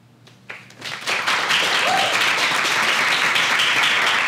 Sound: applause

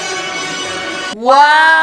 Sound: pah pah pahhh pahhh pahhh

